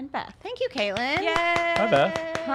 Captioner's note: cheers